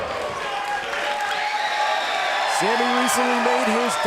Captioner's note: crowd cheering